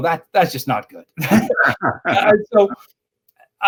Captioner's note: both laughing